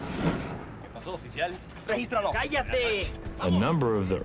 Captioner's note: speaking spanish